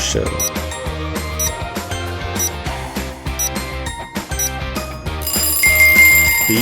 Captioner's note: timer ticking